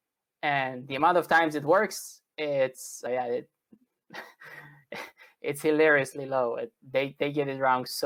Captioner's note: laguhter